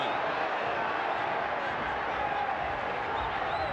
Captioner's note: crowd yelling